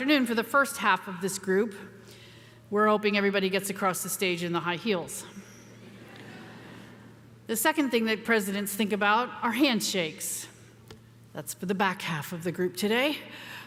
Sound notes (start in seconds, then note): 5.8 audience chuckles